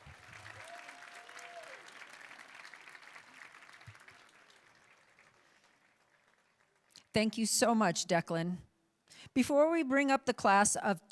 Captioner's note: applauding